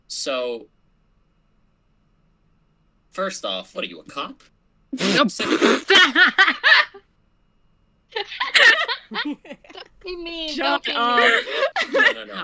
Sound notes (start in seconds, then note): 5.1 laughter